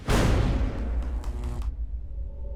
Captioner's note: energy crackles